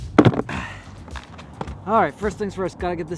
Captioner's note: grunting